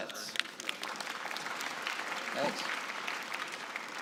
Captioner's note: applause